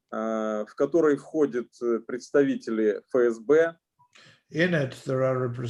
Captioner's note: speaking Russian language